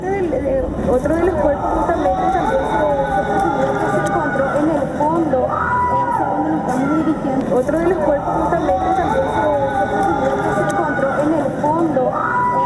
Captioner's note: screams